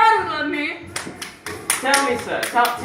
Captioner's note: fake clapping/applause